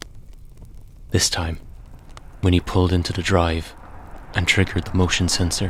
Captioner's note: sound of sound of car arriving and stopping in a driveway